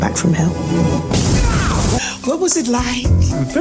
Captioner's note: energy whooshes